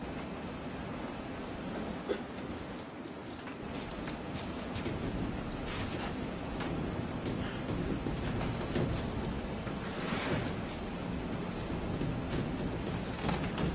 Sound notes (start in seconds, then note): 1.8 whiteboard erasing